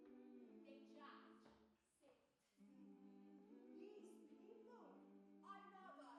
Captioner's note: speaks Zulu